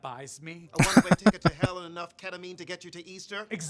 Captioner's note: chuckling